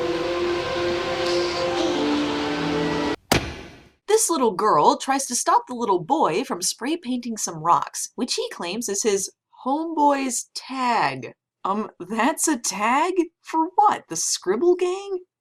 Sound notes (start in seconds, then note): 2.2 stern noises